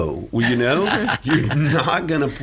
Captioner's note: laughing